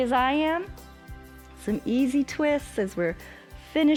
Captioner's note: exhales